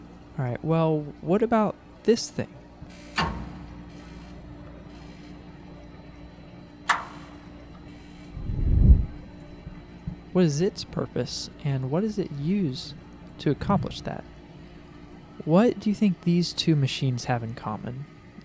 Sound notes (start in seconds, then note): 2.9 nat.gas ignitor clicking; 6.8 gas valve opens; 8.3 flame ignites